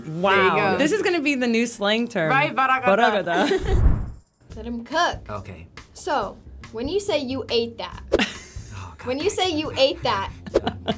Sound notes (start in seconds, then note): 2.7 speaks foreign language; 10.4 chuckles